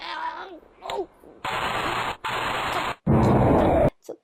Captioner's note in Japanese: バチバチ… ドォォォン！